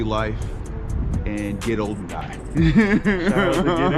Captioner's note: laughing